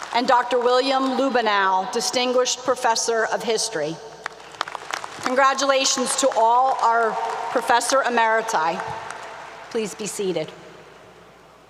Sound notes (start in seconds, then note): 0.0 applause 👏 👏; 4.2 applause 👏 👏